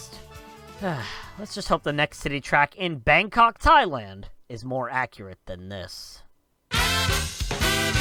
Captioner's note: sigh